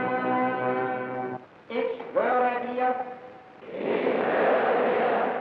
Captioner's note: German spoken audio